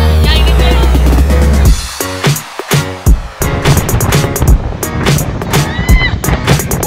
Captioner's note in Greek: χειροκρότημα